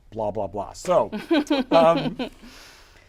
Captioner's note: chuckles